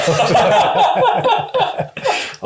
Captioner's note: laughs